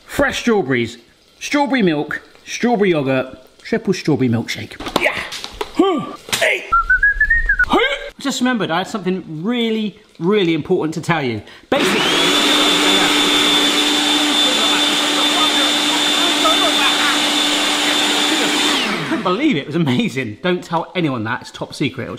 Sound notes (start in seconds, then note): 6.7 whistles; 11.7 blender whirs